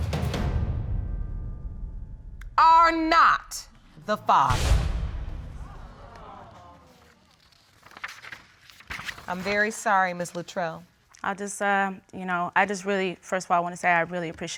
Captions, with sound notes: are not the father. [audience exclaiming] I'm very sorry, Ms. Luttrell. I'll just, um... You know, first of all, I wanna say I really